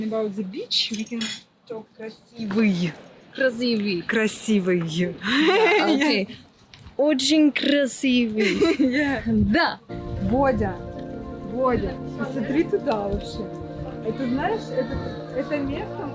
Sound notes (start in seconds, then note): 6.1 laughs; 9.9 peaceful music; 10.1 laughs; 10.9 speaking foreign language